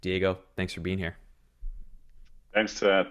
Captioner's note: silence